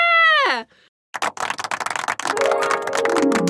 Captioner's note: clapping; magical sound effects